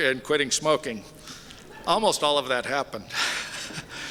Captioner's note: polite laughter